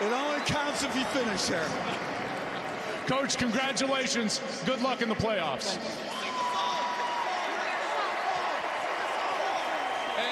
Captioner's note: cheers and applause